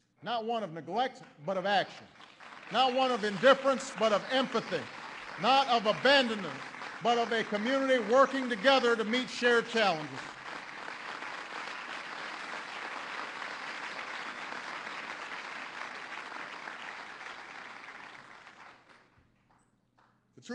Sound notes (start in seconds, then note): 14.9 applause